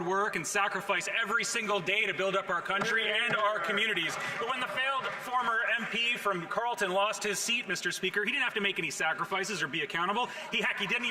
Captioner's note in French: voix de l'interprète